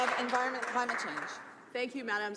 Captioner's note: some Applause